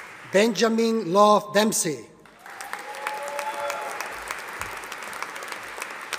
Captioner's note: audience applauding